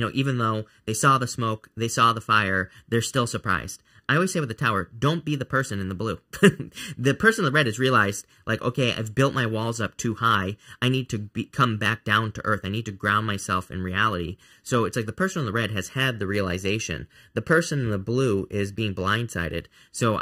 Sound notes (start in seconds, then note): 6.2 chuckling